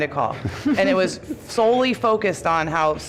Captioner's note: laughter